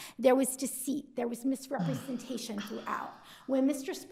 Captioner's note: justice sighing